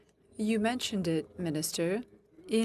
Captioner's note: speaking French